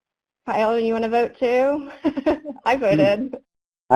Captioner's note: laughs